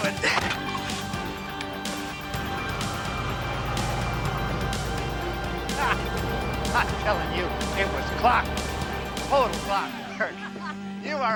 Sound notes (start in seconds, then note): 3.4 tires screeching; 5.9 laughs